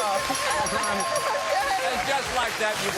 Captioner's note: laughs